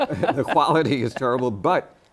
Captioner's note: laughter